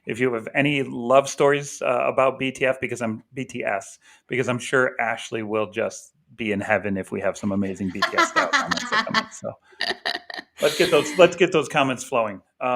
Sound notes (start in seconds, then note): 7.8 laughter